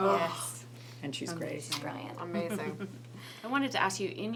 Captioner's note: kissing sound